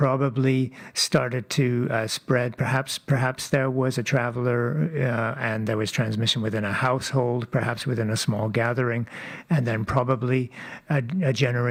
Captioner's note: speaking French